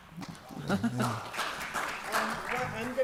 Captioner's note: applause